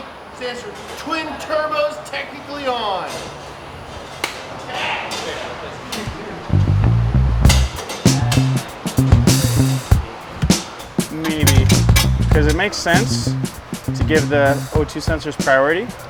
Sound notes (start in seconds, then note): 7.4 metallic clanks; 10.0 bass guitar music